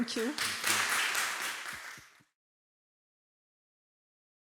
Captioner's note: audience applause